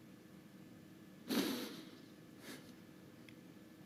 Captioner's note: juddering breath